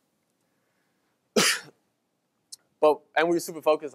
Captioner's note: coughs